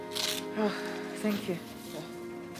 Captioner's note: sighs